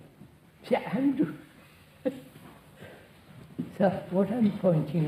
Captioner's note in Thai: หัวเราะ